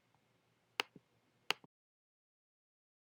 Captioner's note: clicking noises